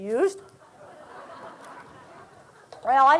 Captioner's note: laughter